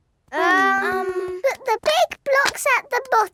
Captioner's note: children hesitating